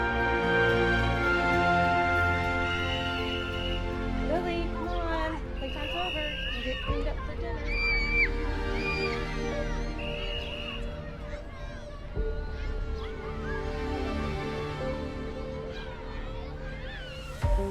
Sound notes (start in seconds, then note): 0.3 slow orchestral music continues; 8.3 children screaming; 9.8 whistle tweets; 13.0 slow orchestral music continues